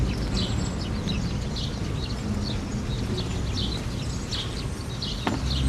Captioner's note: birds continue chirping